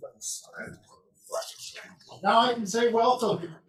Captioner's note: people chatter indistinctly